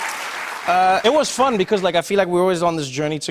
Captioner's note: cheers and applause